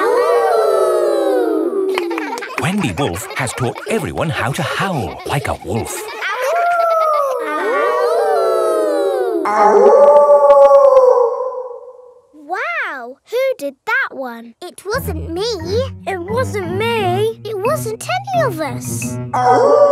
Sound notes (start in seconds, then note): 0.0 kids howling; 6.4 howling; 8.0 kids howling; 10.0 wolf howling loudly